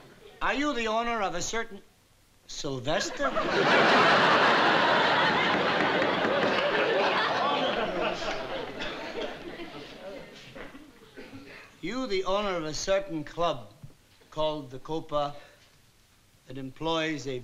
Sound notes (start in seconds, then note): 5.5 judge pounds his gavel